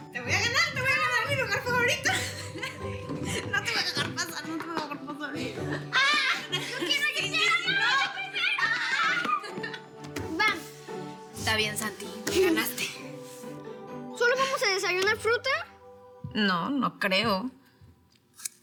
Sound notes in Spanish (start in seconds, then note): 7.3 Gritos y exclamaciones